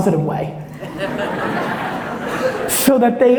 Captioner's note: audience laughs